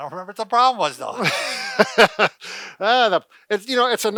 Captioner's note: laughs